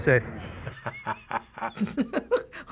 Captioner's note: laughing; laughs